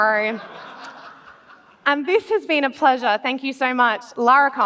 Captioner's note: laughs